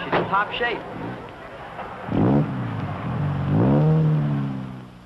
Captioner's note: engine revving